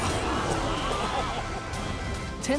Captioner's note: cheering